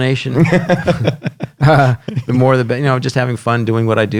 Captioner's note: laughs